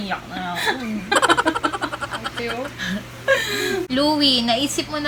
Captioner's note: laughs